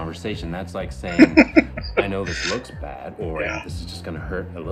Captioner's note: laughing